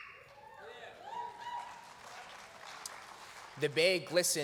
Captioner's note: cheers